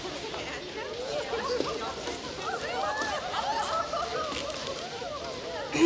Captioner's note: townsfolk murmur and giggle; Jilly clears her throat